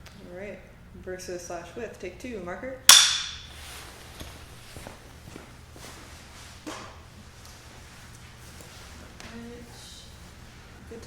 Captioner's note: step, step, step, step